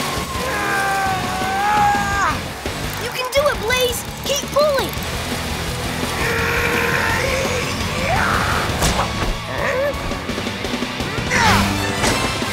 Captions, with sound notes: [straining] You can do it, Blaze! Keep pulling! [grunting] Yah! Yah!